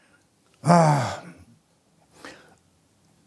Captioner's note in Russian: Познер тяжело вздыхает